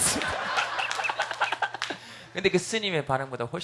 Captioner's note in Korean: 웃음